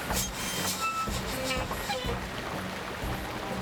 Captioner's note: brakes Screech